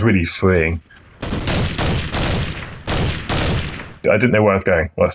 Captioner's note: gunshots blasting